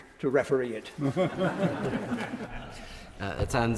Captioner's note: members laugh